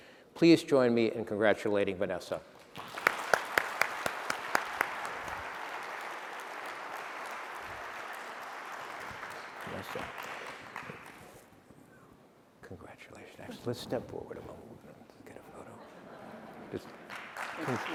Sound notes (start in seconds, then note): 2.6 applause